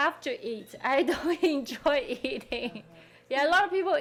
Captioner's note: laughing